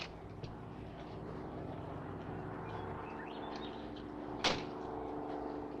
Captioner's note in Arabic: هدير محرك الطائرة